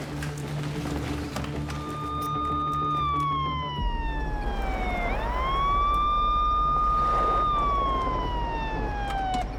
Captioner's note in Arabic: موسيقى متوترة; عويل صفارات الإنذار; يفتح الباب ويغلق